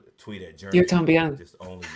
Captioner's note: spanish